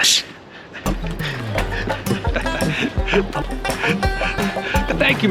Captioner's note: laughs